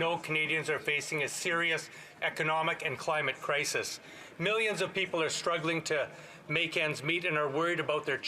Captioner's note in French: voix de l'interprète